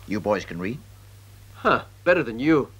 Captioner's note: scoffs